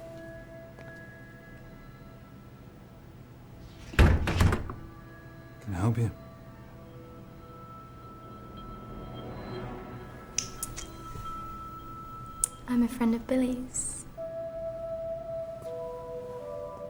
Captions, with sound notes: (Door thuds) - Can I help you? (Dramatic music) - I'm a friend of Billy's. (Ominous music)